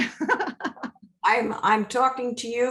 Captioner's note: laughing